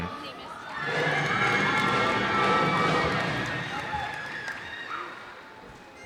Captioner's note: cheers and applause